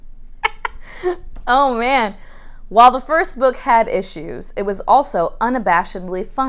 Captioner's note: laughing